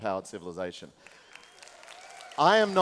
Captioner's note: applause